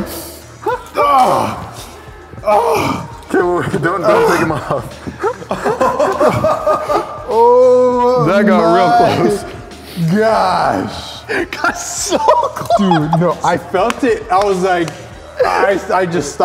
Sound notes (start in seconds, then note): 0.7 groaning; 5.6 laughing